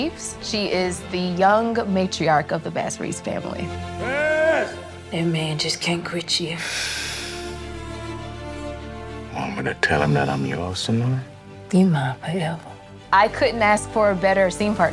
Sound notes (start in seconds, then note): 6.8 sighs